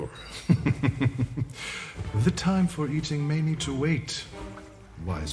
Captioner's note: chuckling